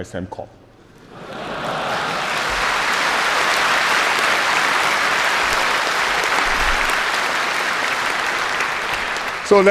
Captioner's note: laughter and applause